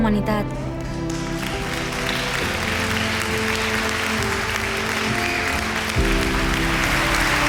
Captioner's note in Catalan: Aplaudiments i crits